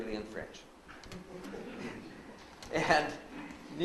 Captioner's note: laughs; audience laughs